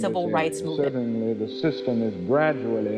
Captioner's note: soundbite of archived recording